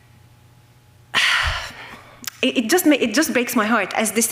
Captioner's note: sighs